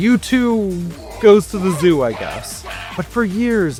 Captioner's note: ape noises